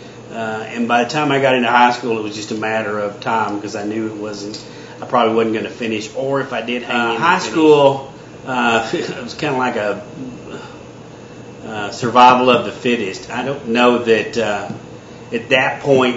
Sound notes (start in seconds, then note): 8.6 chuckles